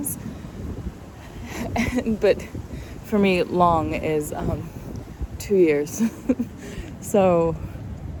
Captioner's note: chuckles